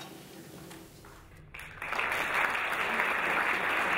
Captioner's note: applause